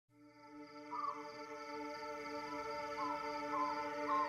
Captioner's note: animals calling